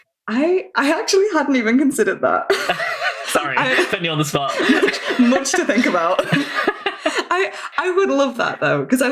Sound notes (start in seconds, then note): 2.5 laughs